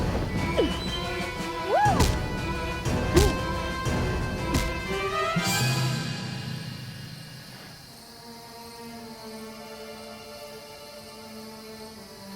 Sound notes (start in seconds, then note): 0.1 dramatic music; 1.6 Jessica moaning; 3.5 dramatic music; 6.0 insects chirping; 8.2 gentle music